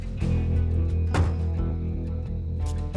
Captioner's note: closes car door